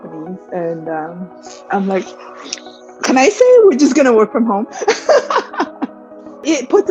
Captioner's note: laughs